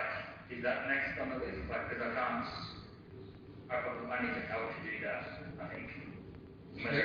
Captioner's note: audio distorts